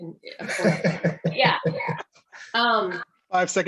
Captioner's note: all laugh